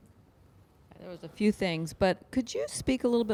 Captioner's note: voiceover